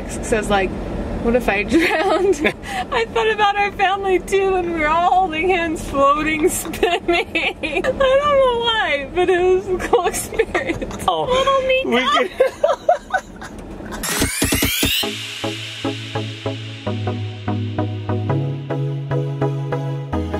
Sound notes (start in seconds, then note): 12.0 laughing; 13.8 upbeat music